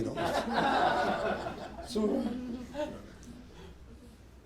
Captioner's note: laughter